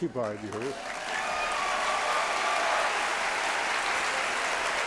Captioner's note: applause